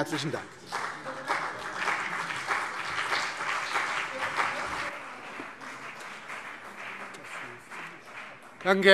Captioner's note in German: Beifall CDU und BÜNDNIS 90/DIE GRÜNEN